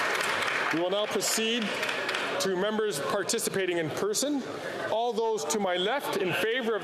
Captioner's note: cheering and Applause